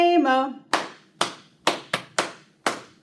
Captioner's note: clap